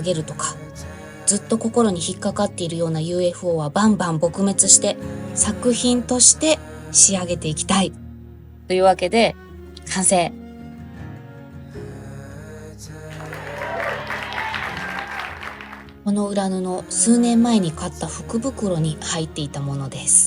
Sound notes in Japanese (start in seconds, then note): 13.1 拍手